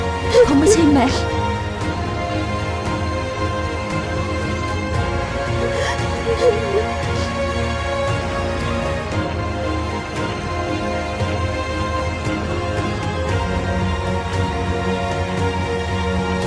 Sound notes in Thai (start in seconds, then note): 5.5 เสียงสะอื้น